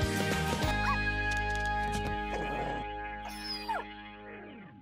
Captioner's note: dog barking